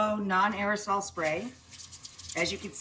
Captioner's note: spraying sound